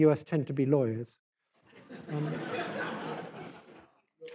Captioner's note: laughter